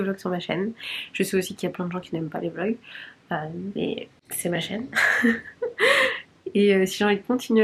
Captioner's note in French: rires